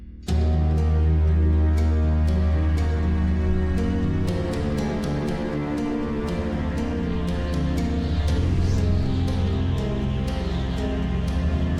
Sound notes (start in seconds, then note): 0.3 dramatic music; 8.0 wind whooshing